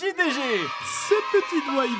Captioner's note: children screaming : YAY!